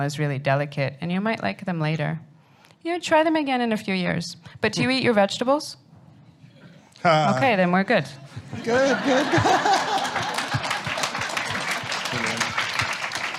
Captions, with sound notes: is really delicate, and you might like them later. Try them again in a few years. But do you eat your vegetables? OK. Then we're good. Good, good, good. [APPLAUSE]